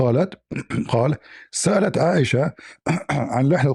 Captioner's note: reads in Arabic; clears throat